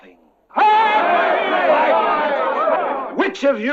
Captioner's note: all cheering